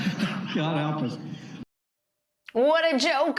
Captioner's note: laughter